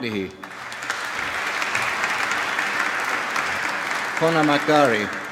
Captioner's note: applause